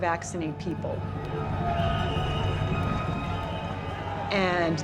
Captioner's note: crowd shouting, whistle blaring